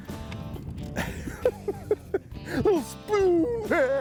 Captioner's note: laughs